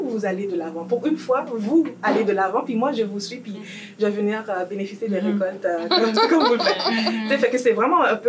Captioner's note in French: rires